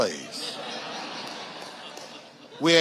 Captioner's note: audience laughing